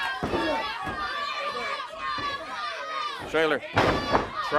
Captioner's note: crowd chatter